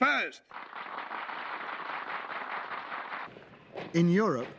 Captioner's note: applause